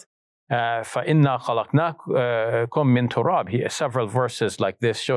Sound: speaks in Arabic

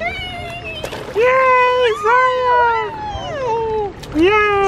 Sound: both cheering

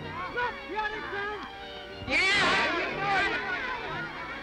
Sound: yelling

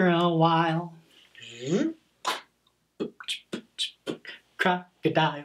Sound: vocalizing and beatboxing

